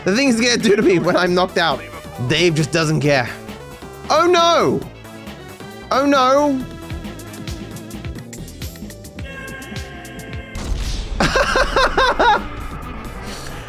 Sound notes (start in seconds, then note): 11.1 laughs